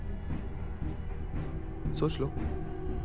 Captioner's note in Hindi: none